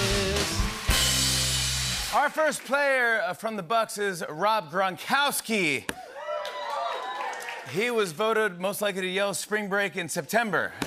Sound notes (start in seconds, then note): 6.0 cheers and applause